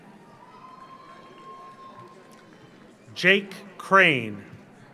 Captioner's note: audience cheers; audience applauds